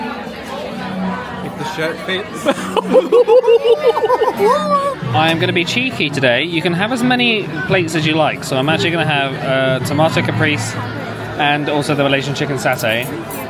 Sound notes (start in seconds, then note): 0.1 crowd chattering; 2.4 pair laughing